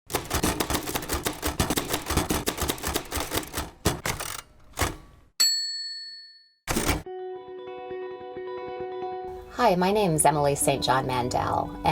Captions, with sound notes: (typewriter keys clacking) (typewriter rings) - Hi, my name is Emily St. John Mandel